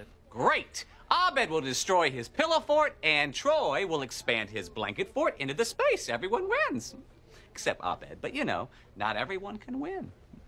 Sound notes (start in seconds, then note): none